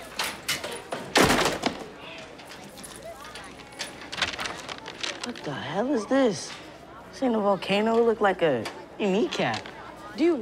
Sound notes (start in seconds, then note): 1.0 books thudding; 4.3 paper rustling